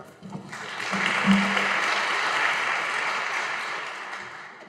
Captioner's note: audience applauding